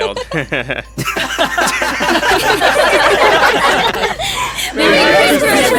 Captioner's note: chuckling; giggling; laughing